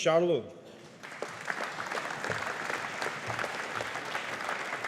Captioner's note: audience applauding